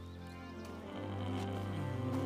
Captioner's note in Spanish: refunfuña